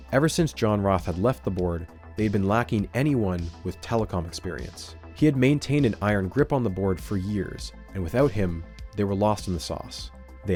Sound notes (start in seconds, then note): none